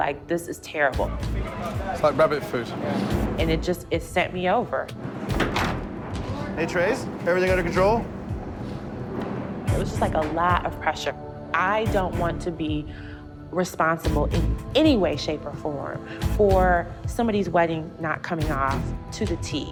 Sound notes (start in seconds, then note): 8.5 sniffles